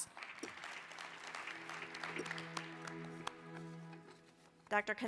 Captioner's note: applause